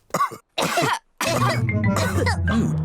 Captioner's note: all cough; coughs